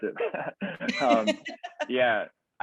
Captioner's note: chuckles